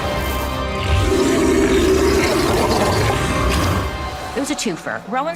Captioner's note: creature growling